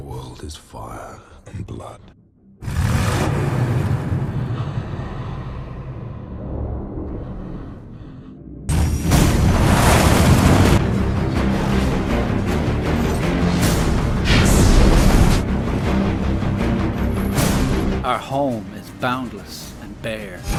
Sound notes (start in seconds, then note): 2.6 engine revving; 9.1 tire and engine roars!